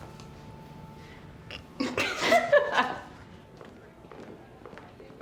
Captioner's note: laughter